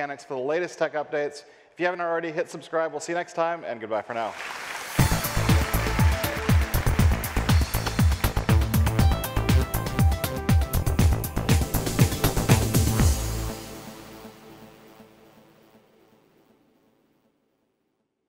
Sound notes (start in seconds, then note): 4.1 audience applauding; 5.6 upbeat electronic music